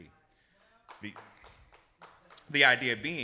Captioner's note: audience applauding